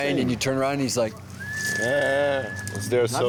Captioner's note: whistles